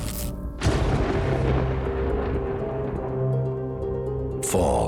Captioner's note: thunder cracks